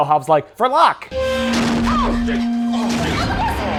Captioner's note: machinery groans, characters shout in alarm; groans